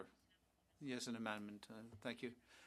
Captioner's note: speaking French